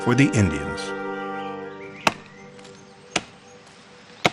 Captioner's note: ax thwacks